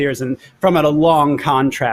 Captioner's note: none